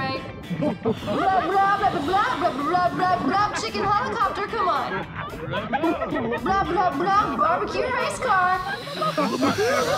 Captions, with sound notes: [all laughing] [continues speaking Blobian] Chicken helicopter, come on. [all laughing] [speaks Blobian] Barbecue race car.